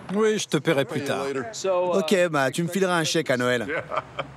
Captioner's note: laughs